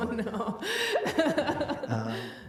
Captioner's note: laughs